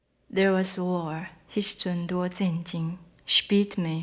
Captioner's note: speaking Taiwanese